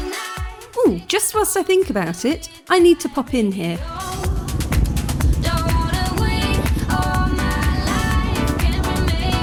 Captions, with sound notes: Ooh, just whilst I think about it, I need to pop in here. [upbeat music] [motorbike engine]